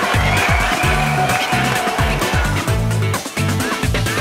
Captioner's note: applause; pop music